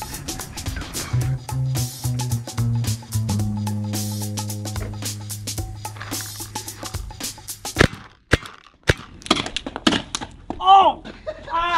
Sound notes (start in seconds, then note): 7.7 paintball gun shooting